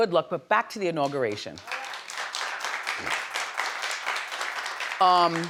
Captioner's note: audience applauds